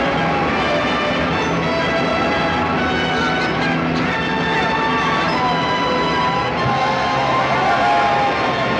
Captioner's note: cheering